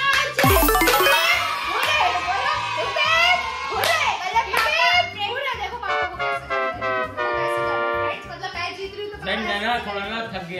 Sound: applause

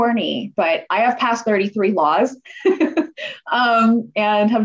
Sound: laughter

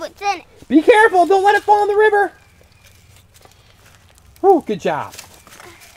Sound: voiceover

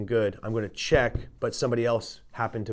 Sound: thumps poker table

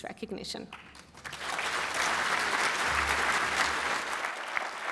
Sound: applause

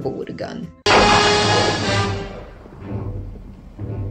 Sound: gunshot

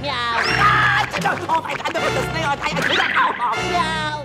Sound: screaming

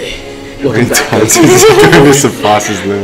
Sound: indiscernible excited chatter

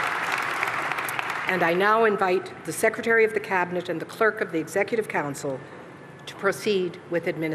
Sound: applause

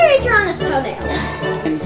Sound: chocking

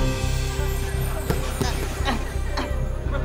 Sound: grunting

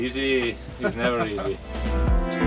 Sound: laughter

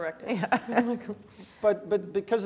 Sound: laugh

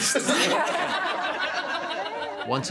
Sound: laughing

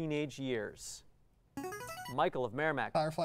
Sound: player buzzer

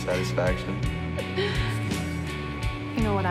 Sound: Candy Laughing

